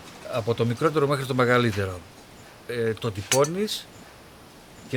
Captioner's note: man speaking in Greek